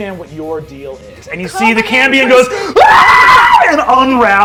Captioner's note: screams